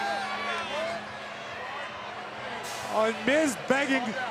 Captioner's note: crowd yelling